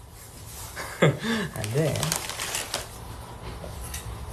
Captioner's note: laughs